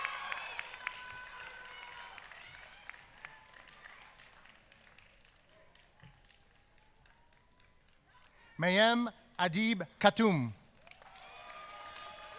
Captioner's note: applause